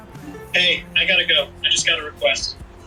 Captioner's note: phone chimes